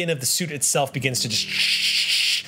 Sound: sparking sounds

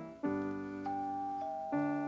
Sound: doorbell

